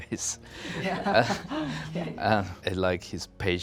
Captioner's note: laughter